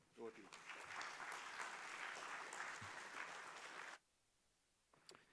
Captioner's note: applause